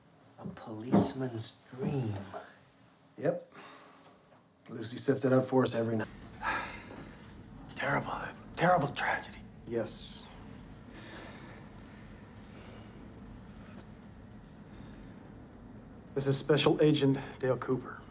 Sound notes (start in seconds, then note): 6.3 Jacoby sighs; 10.6 awkward silence